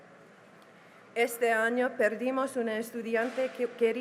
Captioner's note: speaking spanish